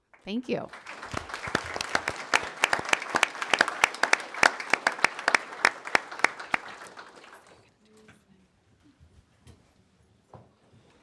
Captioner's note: applause